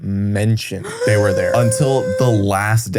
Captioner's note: gasps